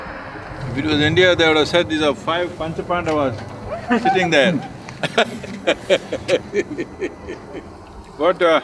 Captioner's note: laughter